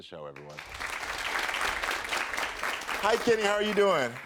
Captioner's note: audience applaud